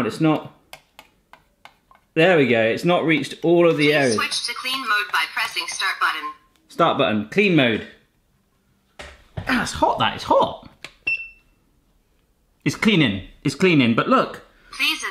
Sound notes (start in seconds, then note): 11.1 beep